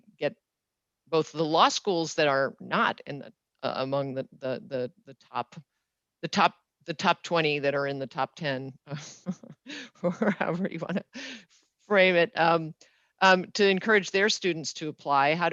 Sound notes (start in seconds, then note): 9.2 laughs